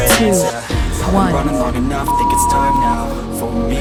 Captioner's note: beep; upbeat music